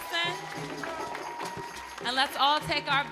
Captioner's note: audience cheering